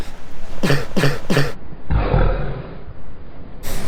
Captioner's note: cough